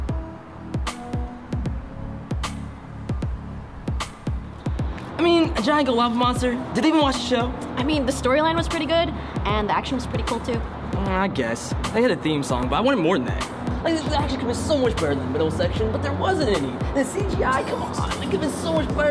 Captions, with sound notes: i mean.. a giant gold lava monster? did they even watch the show? i mean the story line was pretty good and the action WAS pretty cool too ehhh yeahh i guess.. they had a theme song, but i wanted more than that *mumbling complaints*